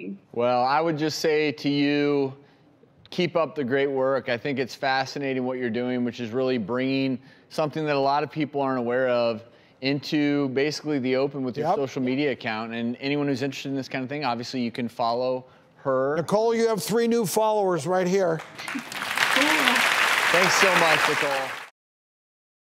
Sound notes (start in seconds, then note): 18.4 audience applause